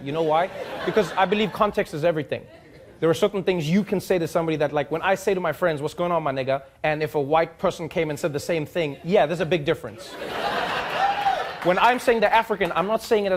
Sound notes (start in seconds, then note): 10.0 audience laughing